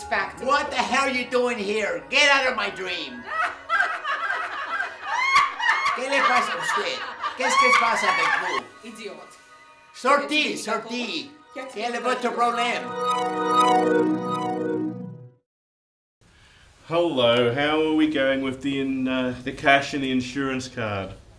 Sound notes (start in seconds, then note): 3.2 echoing laughter; 7.3 yelling at each other in foreign language